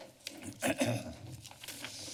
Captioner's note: clears throat